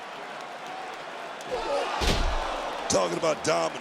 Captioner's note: crowd roars